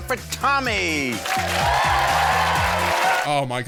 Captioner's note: audience cheering